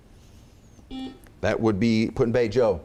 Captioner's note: chimes